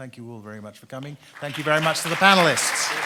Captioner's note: audience applauds